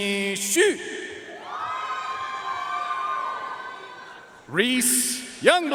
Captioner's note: audience cheering and applauding